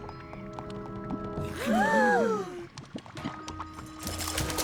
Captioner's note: all gasp